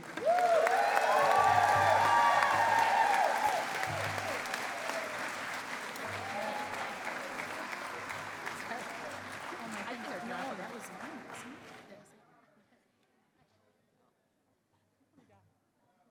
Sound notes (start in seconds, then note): 0.2 cheering and applause; 8.6 chatter